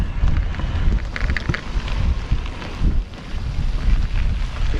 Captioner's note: crackling